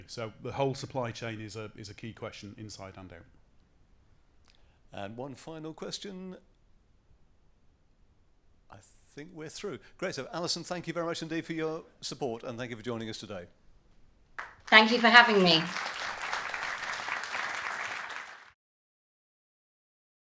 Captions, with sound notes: So the whole supply chain is a key question inside and out. - One final question. I think we're through. Great, so Allison, thank you very much indeed for your support and thank you for joining us today. - Thank you for having me. (audience applauds)